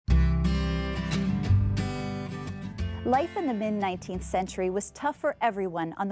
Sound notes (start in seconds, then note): 0.4 bright music; 3.3 voiceover